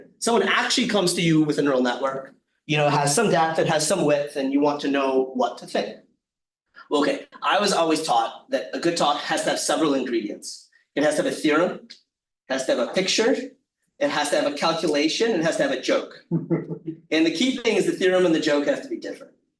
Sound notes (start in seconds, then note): 16.3 attendee chuckling